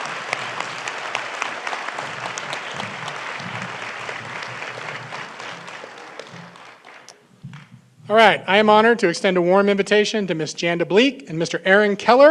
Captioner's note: applause